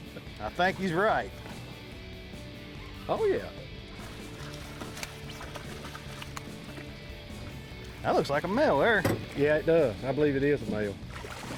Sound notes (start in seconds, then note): 3.7 water splashes; 11.0 water splashes